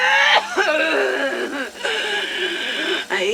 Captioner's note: coughs; growls